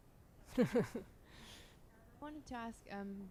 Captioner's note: laughs